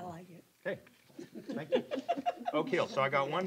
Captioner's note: laughter